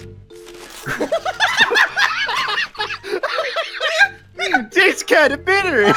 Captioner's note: laughter